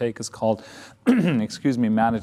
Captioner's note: clears throat